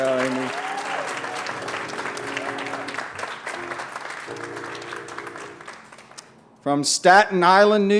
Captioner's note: applause